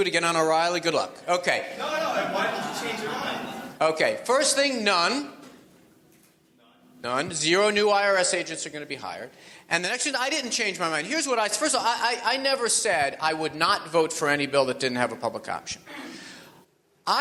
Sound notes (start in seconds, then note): 4.2 audience laughs